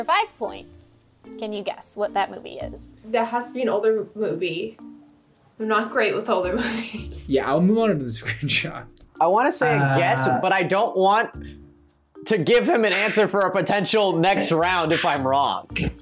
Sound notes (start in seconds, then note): 7.1 laughs